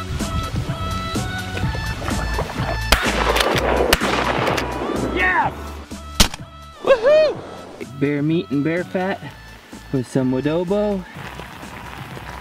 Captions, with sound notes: (gunshots) Yes! (gunshot) Woo hoo! - That's bear meat and bear fat with some Woodobo.